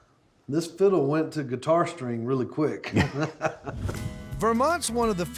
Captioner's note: laughing